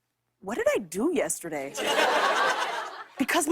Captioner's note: laughter